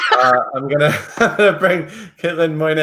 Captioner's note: laughs